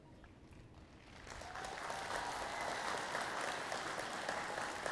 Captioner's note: audience applauding